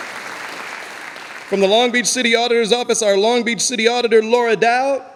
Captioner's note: audience applauding